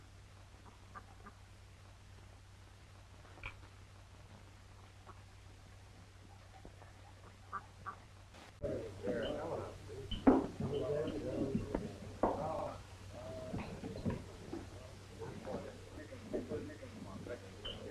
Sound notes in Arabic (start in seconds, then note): 0.6 البط ينقنق; 8.5 الناس يتحادثون